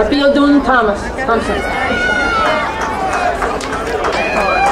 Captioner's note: crowd cheering